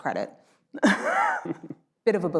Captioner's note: laughs